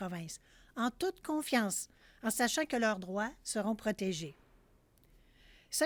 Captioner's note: speaking French